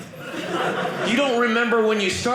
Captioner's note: audience laughing